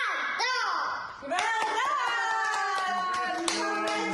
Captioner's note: applause